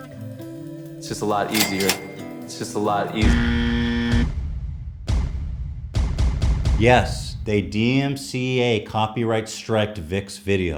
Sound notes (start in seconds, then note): 1.0 cha-ching sound plays; 3.2 buzzer sound plays